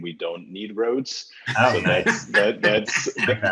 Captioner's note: panel laughing